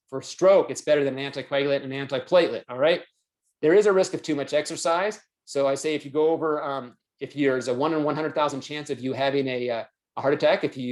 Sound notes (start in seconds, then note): none